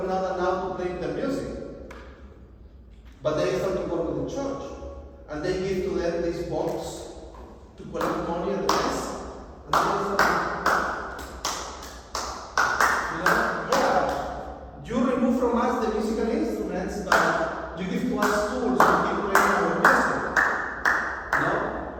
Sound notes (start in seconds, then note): 9.6 clapping hands